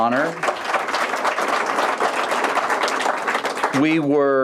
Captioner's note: applause